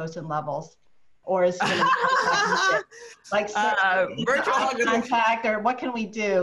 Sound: laughs

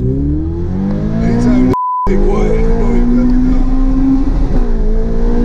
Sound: engine roars; beeps; murmurs; engine roaring

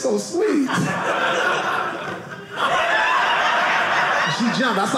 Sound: audience laughing

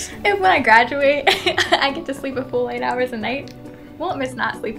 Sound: laugh

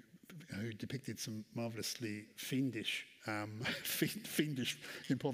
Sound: chuckles

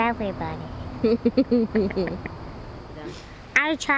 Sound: laughs

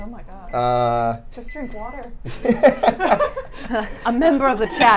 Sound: laughs

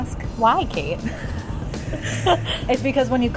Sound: laughing

